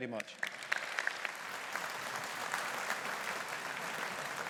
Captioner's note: audience applauding